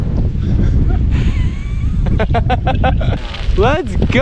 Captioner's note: laughing